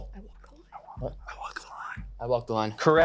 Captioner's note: whispering